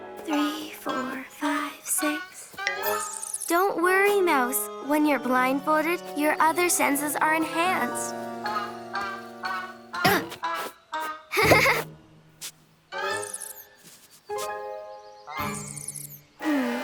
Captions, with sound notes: Three, four, five, six, don't worry Mouse, when you're blindfolded, your other senses are enhanced. (playful music) (grunts) (giggles) (playful music)